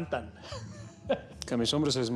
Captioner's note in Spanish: risas